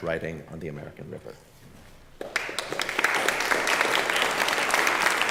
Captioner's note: applause